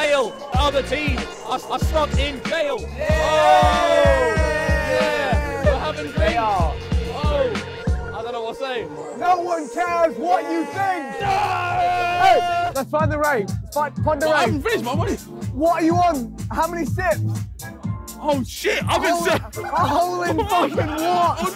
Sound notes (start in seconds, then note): 2.9 all cheering; 10.0 screaming